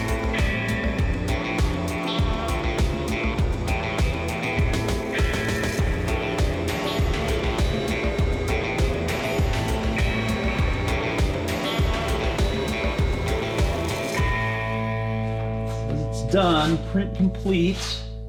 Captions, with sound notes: (engine droning) (techno music continues) (engine droning) (techno music continues) It's done. Print complete.